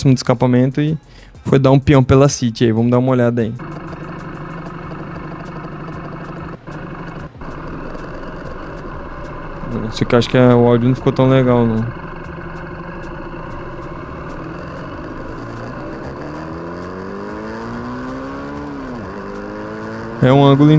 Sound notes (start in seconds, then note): 3.7 motor snoring; 12.1 moto snoring